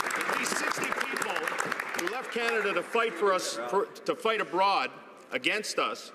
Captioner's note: some Applause